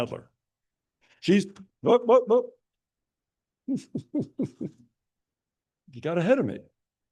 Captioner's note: laughing